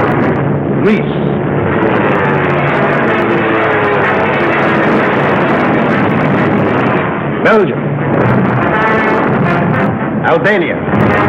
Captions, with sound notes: Greece? (planes buzzing) (frantic orchestral music) Belgium? (explosions roaring) Albania?